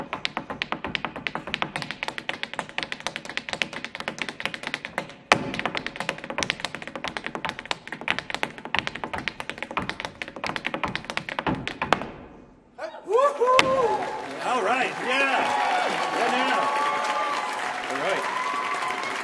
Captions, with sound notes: (audience cheering) (audience applauding) All right, yeah.